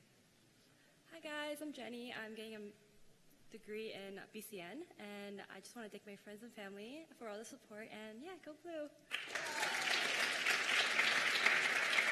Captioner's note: cheers and applause